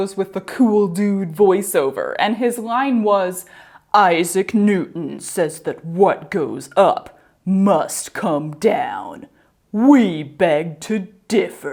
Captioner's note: in a cool dude voice